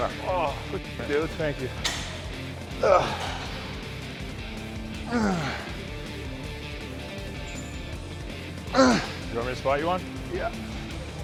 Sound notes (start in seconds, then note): 3.4 upbeat rock music continues; 5.2 Sheamus grunts